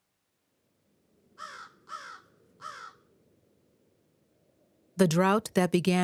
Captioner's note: bird cawing